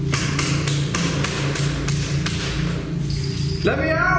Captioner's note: banging on door